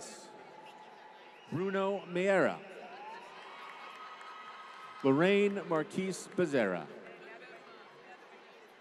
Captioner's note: applause